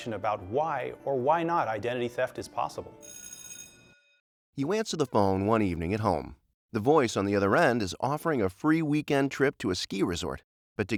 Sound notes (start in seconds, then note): 3.0 buzzer rings